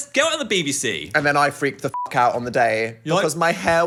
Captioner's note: beep